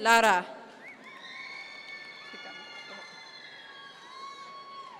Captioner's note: audience members cheer